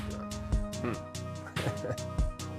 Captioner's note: laughs; upbeat music